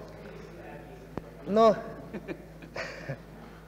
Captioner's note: laughter